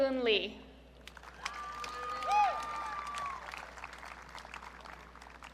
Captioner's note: audience cheering